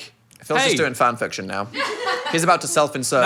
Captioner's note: everyone laughs